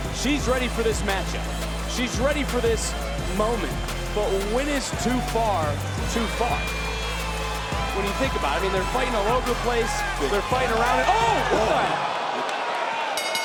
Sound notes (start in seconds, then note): 6.6 crowd cheering; 6.6 upbeat synth music; 11.5 crowd oohing; 13.2 bell dinging